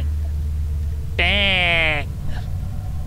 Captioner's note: bang; baaaaaaaaang